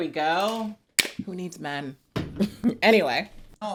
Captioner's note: can popping